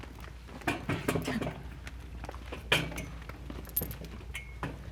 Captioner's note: stools clanking